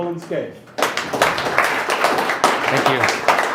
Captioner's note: audience clapping